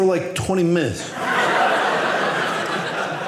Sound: audience laughing

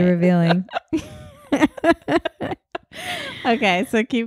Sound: laughing

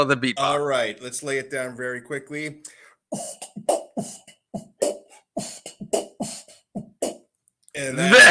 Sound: beatboxing

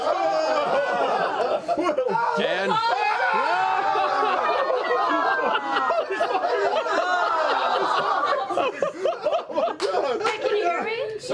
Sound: cheering

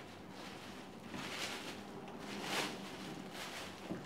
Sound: rustling

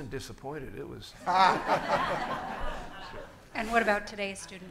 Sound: everyone laughing

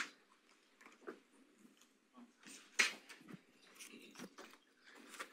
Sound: presenters chattering faintly

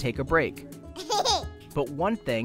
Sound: laughter

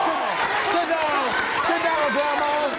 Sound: woman's speech drowned out by audience cheering

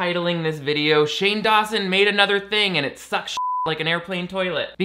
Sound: beeps

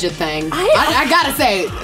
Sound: sighs

